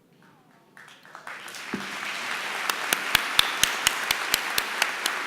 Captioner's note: applause